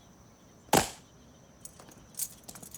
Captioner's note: clicking heels